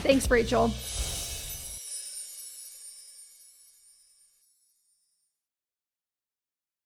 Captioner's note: gentle chiming bells; air whooshing